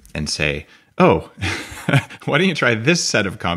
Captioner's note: chuckles